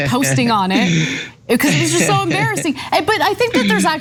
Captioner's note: laugh